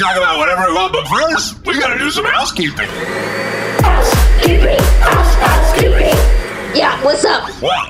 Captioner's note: vacuum sounds over music; singing